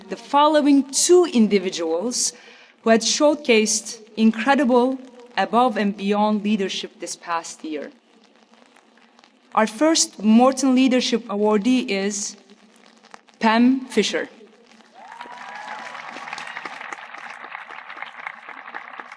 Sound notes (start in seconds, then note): 14.9 audience applauding